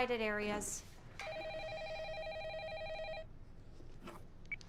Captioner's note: telephone ringing